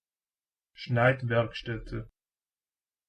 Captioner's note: fast Pronunciation